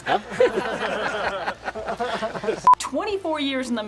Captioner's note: hunters laughing